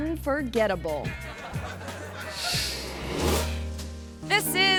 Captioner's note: audience laughs